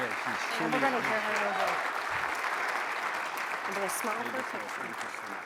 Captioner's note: audience applauds